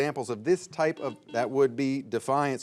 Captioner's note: buzzer beeping